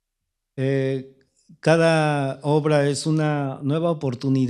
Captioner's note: speaking spanish